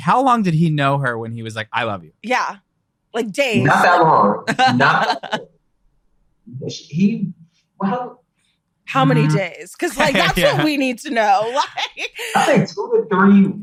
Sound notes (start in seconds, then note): 3.5 all laughing